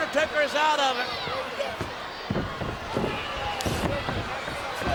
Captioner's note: crowd yelling